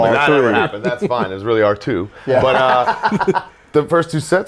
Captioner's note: laugh